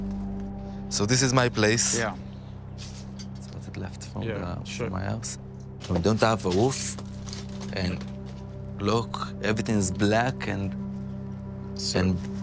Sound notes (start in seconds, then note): 2.8 debris crunching